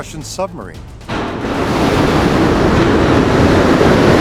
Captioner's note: water rushing